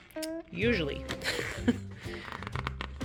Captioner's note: laugh